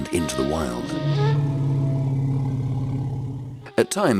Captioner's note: elephant growling